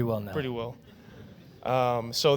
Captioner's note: laughter